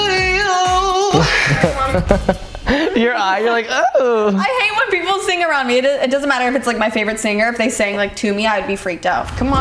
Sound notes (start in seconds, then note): 1.1 laughs